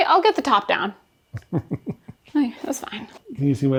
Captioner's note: laughing